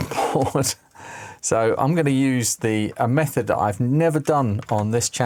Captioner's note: laughs